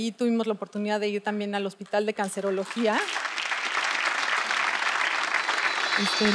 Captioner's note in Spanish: Aplausos